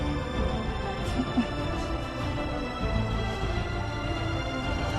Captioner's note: Fischer sobs